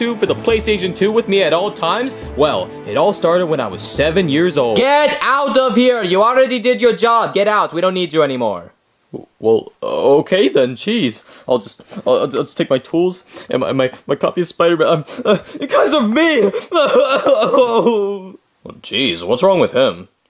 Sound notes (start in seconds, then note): 17.6 sobbing